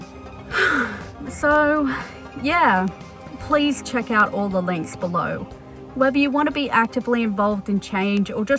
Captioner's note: sigh